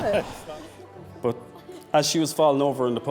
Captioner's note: photographer laughing